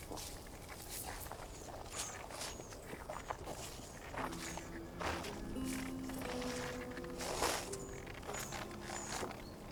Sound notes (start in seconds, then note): 1.5 gravel crunching